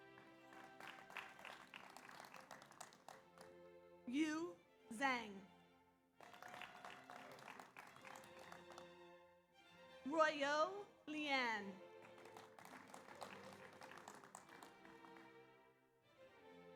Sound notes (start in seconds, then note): 0.0 audience applauds; 6.2 audience applauds; 6.2 audience cheers; 11.8 audience applauds